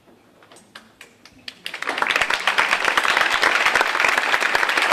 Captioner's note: audience applauding